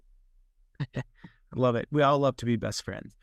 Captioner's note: laughs